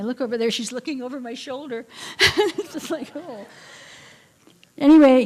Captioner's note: laughter